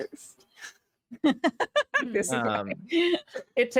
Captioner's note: laughing